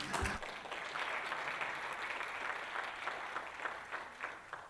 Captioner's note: applause